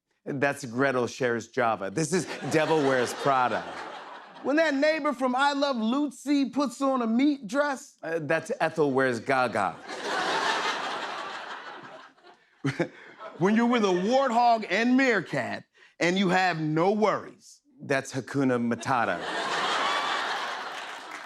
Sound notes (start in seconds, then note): 9.4 laughter; 12.6 chuckles; 18.7 laughter